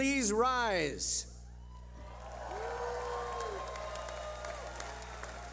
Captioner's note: clapping